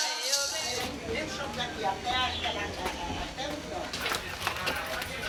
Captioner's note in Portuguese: Música , vozes e chocalhos; Vozes do ambiente e passos; Locutor de rádio, passos